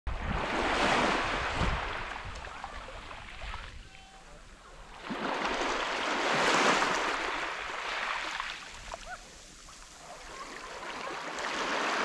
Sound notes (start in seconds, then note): 0.1 waves softly breaking on quiet beach